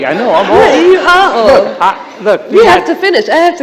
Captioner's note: laughter